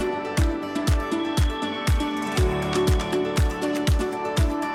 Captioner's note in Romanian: Aplauze